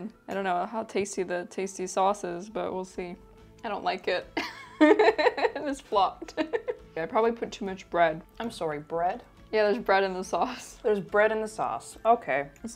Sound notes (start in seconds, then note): 4.4 chuckles